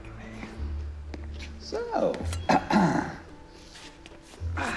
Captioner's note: clears throat